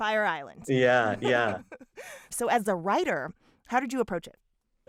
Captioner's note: laughter